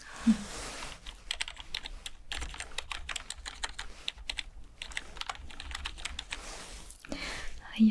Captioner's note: typing sounds